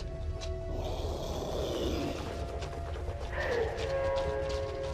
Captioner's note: creature snarling